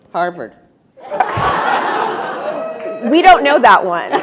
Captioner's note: attendees laughing